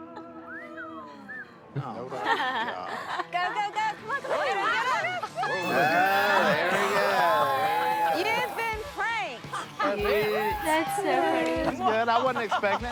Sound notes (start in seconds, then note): 0.4 whistling in appreciation; 5.6 squealing